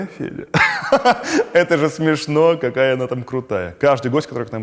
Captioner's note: laughs